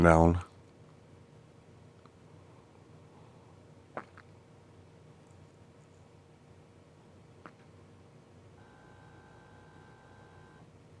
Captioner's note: silence